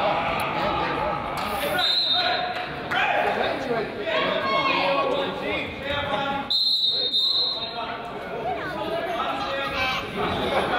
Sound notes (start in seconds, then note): 1.7 whistle blows; 6.4 whistle blows